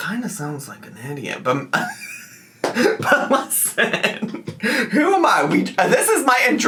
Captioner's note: laughing